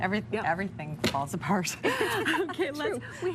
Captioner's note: laughing